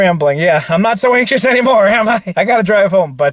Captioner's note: laughs